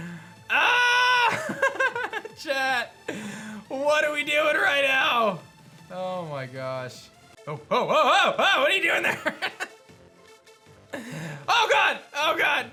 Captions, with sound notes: Ah! (laughs) Chat. What are we doing right now? Oh my gosh. Oh oh oh oh oh! What are you doing there? (laughs) Oh god. Oh god.